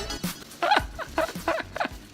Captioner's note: laughs